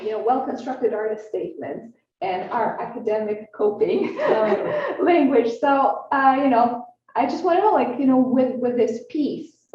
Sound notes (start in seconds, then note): 4.0 laughs